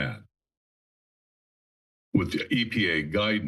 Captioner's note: pause